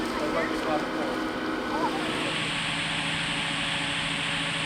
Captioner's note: crane motor running